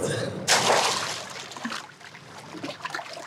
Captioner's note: cough; splash